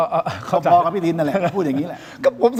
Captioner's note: laughs